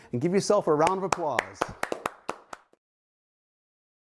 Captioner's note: applause